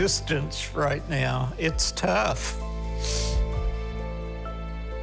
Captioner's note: sniffles